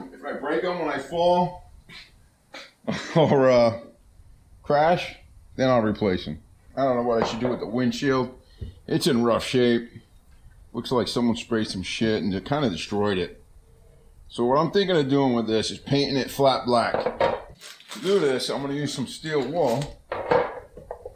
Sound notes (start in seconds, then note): 2.8 laughing